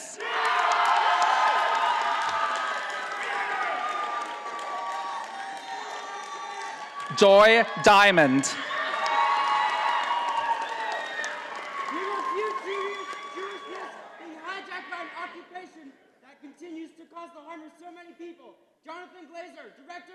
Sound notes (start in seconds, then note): 0.2 audience applauding; 8.4 audience applauding